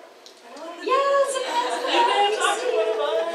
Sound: audience laughs

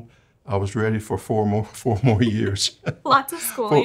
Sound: chuckles

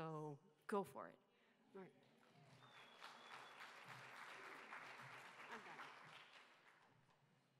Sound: applause

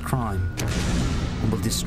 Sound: explosion

